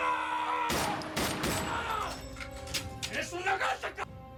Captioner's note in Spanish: grito